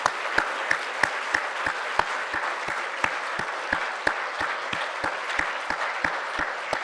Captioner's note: large standing ovation applause from the floor